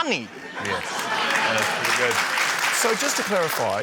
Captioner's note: laughter, applause